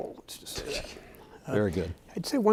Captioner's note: chuckling